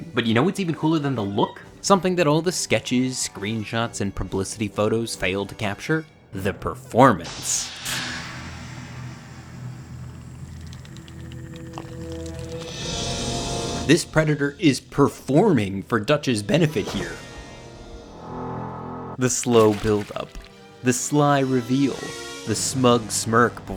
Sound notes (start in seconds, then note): 11.4 Predator low growling; 11.4 tense suspenseful music